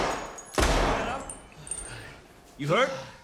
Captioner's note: gunshots